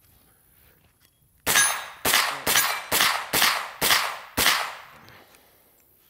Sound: gun firing and hitting metal repeatedly

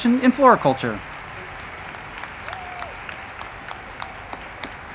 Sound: crowd clapping

